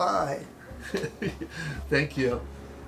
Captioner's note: laughing